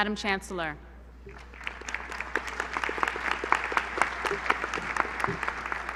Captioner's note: applause